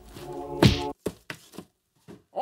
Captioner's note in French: bam